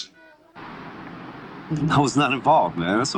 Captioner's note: noisy city